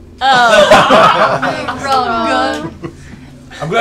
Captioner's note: laughter